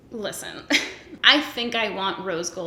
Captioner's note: giggles